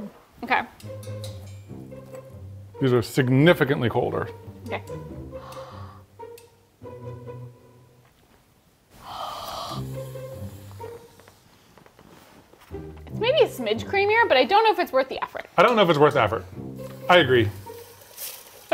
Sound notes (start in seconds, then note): 5.2 upbeat music; 5.3 breathing